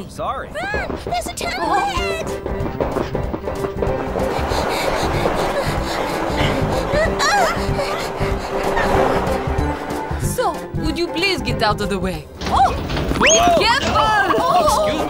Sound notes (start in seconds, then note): 2.5 footsteps tapping; 4.2 panting; 7.3 upbeat music